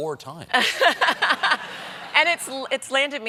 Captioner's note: laughter